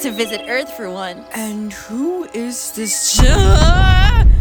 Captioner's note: yelping